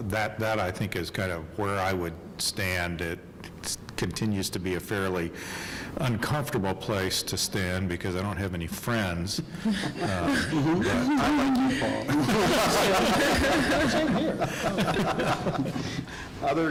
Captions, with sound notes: that where I think is where I would stand if it continues to be a fairly uncomfortable place to stand because I don't have any friends. (laughing) (lively chatter)